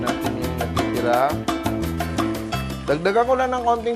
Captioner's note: sizzle